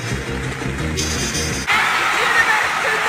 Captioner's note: crowd cheering